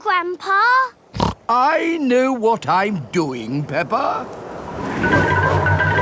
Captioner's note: snorts